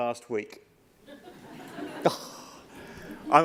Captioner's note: laughter